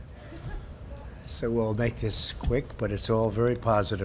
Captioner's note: laughter